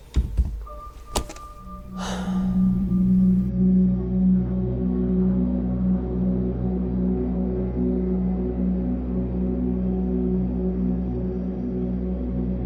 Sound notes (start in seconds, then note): 1.6 Kristin sighs; 4.8 eerie music